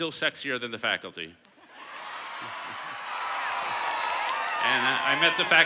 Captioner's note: cheers